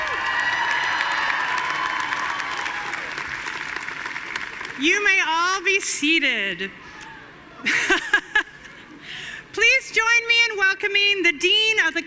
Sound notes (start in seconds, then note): 0.0 audience cheering and applauding; 7.6 laughs